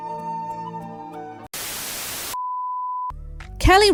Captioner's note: static